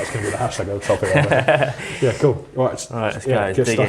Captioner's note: laughs